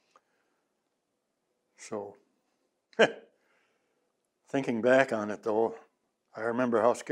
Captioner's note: laughs